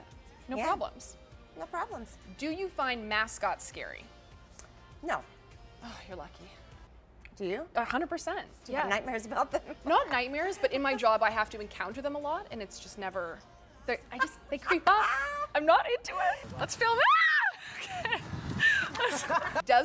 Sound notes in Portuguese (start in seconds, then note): 14.2 risos; 18.6 risos